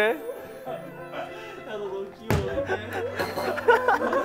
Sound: laughing

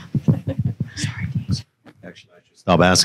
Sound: whispering

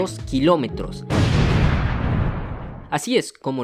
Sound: sound explosion

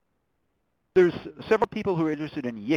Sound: voiceover

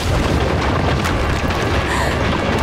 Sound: crumbling; she gasps

